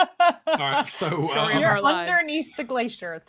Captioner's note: laughing